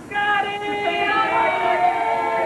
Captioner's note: crowd